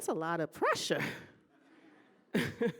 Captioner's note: laughing